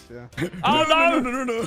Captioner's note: laughs